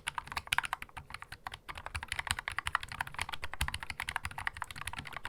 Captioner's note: keystroke sound